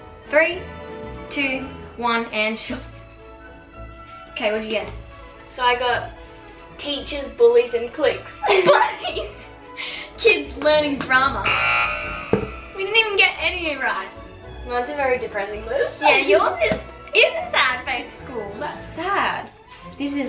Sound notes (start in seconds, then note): 8.4 laughs; 11.4 buzzer beeps